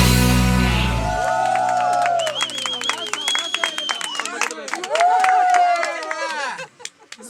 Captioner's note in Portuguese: Aplausos